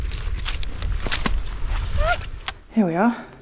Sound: girlish squeal

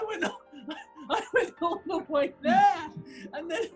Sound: giggling

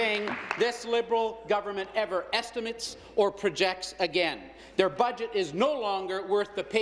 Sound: applause

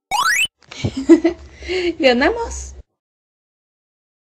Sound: giggles

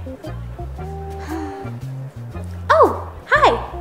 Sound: sigh

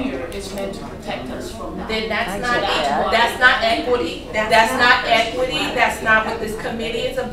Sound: growing chorus of disapproval

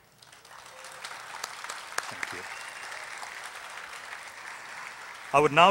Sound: applause

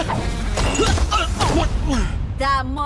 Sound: Po grunts

